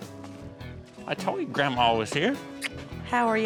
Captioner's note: smooch